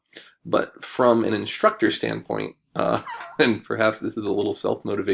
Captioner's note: chuckles